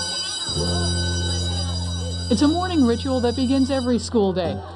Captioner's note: bell rings